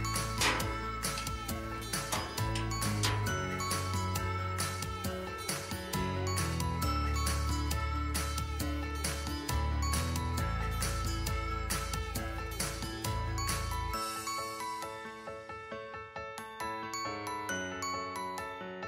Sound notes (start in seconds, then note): 0.2 combination lock clicking